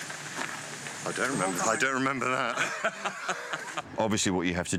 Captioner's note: laughter